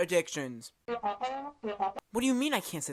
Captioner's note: crew member whispering